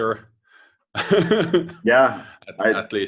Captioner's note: laughs